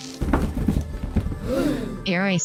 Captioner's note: gasp